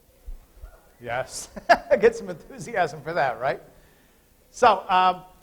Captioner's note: laughter